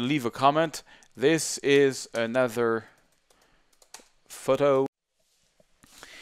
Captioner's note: types on keyboard